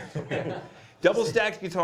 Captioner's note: laughs